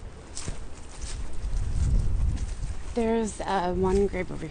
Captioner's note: footsteps on grass; voiceover